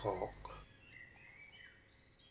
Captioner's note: bird song